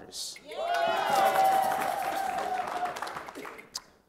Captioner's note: crowd cheering